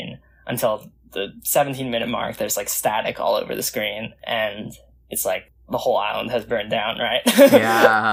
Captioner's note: laughs